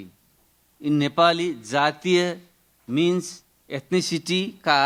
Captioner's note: speaking in foreign language